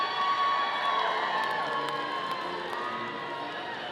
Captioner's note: audience cheering